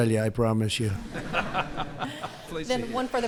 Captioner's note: laughter